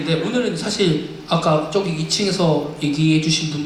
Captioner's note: none